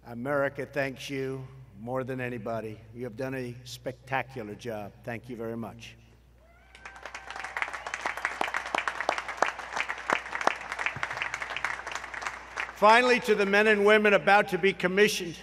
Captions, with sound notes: America thanks you more than anybody. You have done a spectacular job. Thank you very much. (Applause.) Finally, to the men and women about to be commissioned